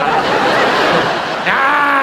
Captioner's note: audience laughs